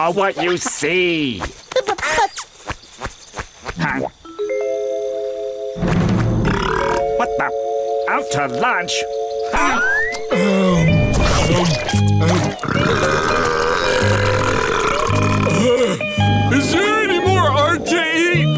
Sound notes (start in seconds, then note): 6.4 burping; 12.4 burping; 15.0 chuckles